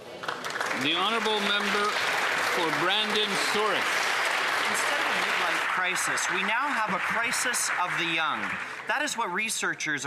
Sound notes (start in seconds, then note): 5.0 some Applause